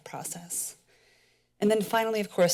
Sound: pause

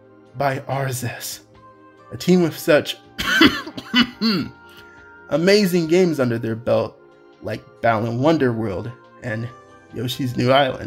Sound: cough

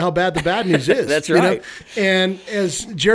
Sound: laughs

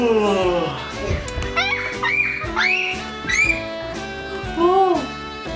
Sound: dad yawns; screams

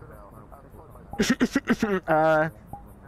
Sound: nervous coughing

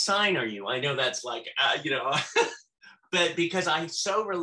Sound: laughs

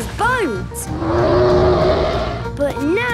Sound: loud roar

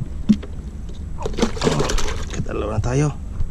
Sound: splash

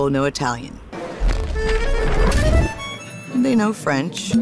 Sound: lively music; fire whooshing

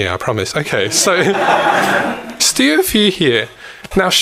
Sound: audience laughs

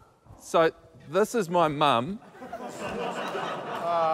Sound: laughter

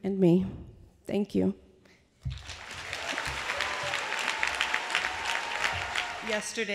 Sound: applause

